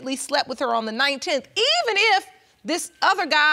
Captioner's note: none